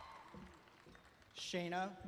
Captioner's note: applause